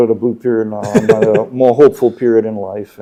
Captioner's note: laughing